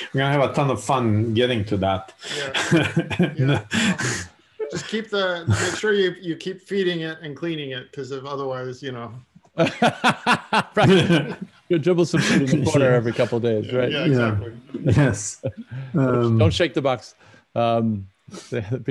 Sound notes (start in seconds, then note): 9.5 laughter